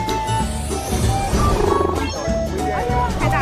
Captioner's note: chit-chatting